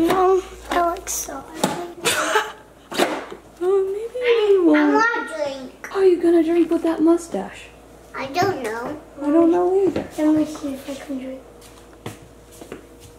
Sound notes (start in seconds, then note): 2.0 laughing